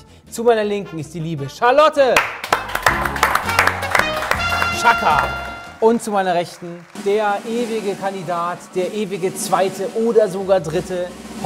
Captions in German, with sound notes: Zu meiner Linken ist die liebe Charlotte! (Applaus) Tschakka! Und zu meiner Rechten, der ewige Kandidat, der ewige Zweite oder sogar Dritte. (Trommelwirbel)